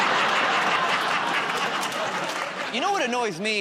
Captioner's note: laughter